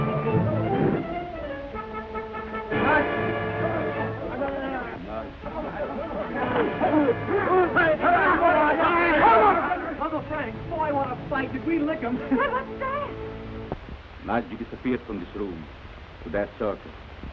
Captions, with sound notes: - Nadji. Nadji. (men chatter) - Uncle Frank, boy, what a sight, did we lick them. - Wait, what's that? - Nadji disappeared from this room through that circle,